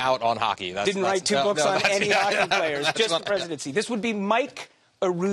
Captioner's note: laughter